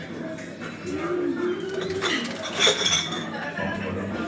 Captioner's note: pub background chatter